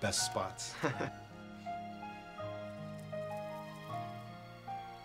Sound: Fredric chuckles

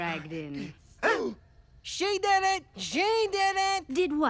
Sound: gasping

